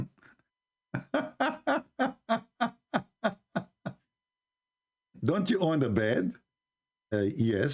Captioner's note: Ketawa